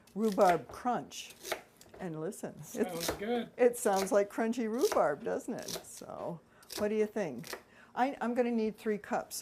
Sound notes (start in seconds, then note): 2.3 crunchy slicing